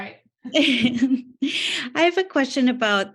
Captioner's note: laughs